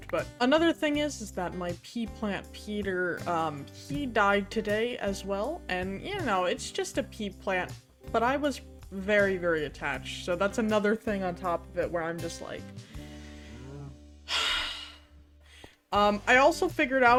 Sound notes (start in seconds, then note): 12.9 heavy sigh